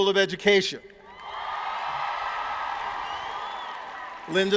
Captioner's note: cheering